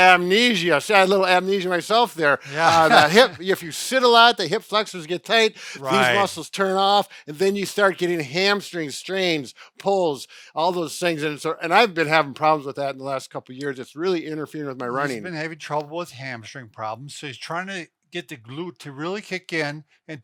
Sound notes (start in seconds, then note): 2.4 laughing